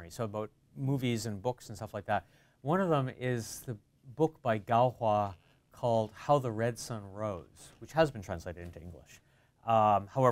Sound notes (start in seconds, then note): none